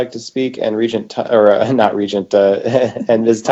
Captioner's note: chuckles